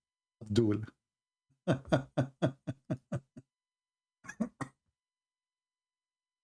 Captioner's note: Ketawa